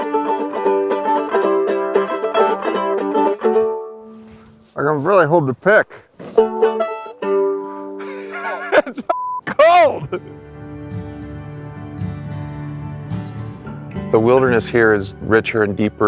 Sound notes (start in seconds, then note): 0.0 mandolin music; 8.0 laughing